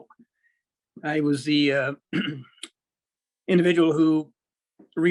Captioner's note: clears throat